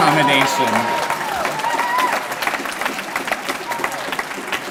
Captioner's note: applause